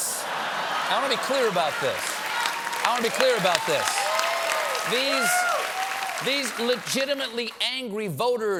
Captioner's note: laughter